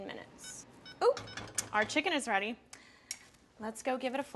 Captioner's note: alarm beeps